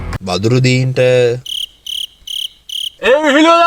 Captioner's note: crickets